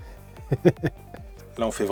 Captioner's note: laughs